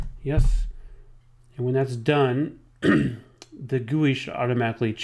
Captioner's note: clears throat